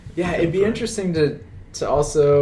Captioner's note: none